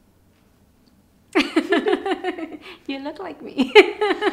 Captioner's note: laughing